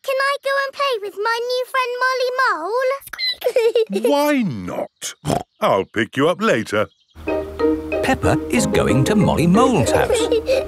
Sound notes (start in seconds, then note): 3.0 squeaks; 5.2 snort; 9.7 children giggling